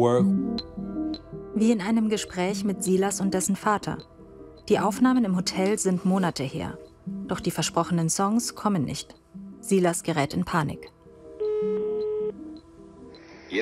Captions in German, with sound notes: Wie in einem Gespräch mit Silas und dessen Vater. Die Aufnahmen im Hotel sind Monate her. Doch die versprochenen Songs kommen nicht. Silas gerät in Panik. (Freizeichen)